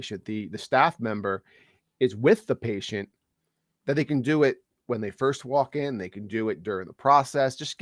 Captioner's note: none